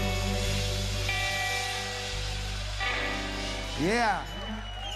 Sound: crowd cheering

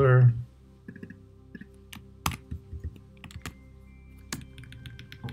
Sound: keyboard clicking

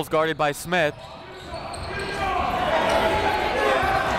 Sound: chatter

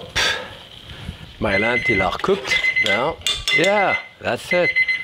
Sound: timer rings

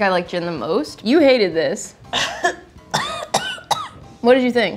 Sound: coughing

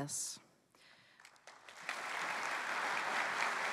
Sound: applause

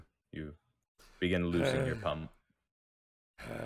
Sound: Nail breathing heavily

